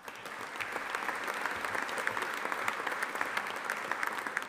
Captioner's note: audience applauding